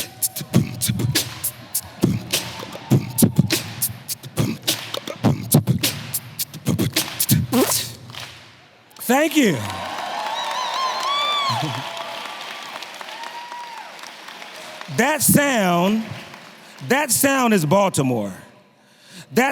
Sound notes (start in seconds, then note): 0.0 beatboxes; 0.2 everyone clapping; 10.3 audience clapping and cheering